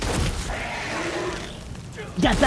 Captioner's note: Imp Stalker proceeds to make classic Arch-vile death sound